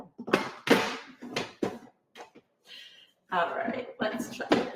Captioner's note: container rattling